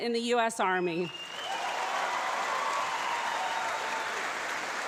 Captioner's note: loud applause